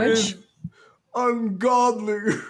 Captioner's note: sobbing